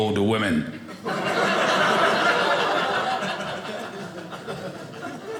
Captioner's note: audience laughing